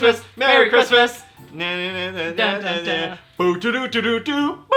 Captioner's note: humming song